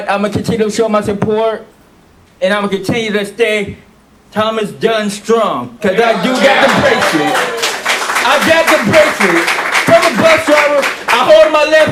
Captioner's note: applause